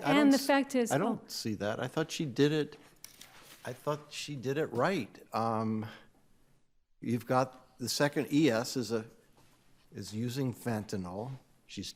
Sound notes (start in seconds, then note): none